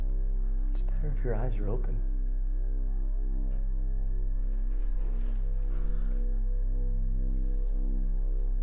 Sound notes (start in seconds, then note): 4.5 rustling